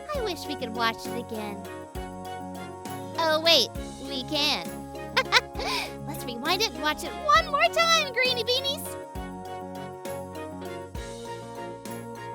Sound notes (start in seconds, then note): 5.1 laughing; 9.4 light music